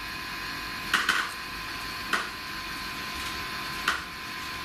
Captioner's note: tapping